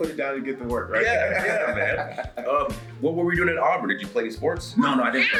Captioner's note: laugh